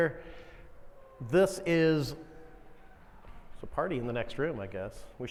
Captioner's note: faint applauding